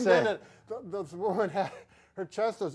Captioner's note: laughs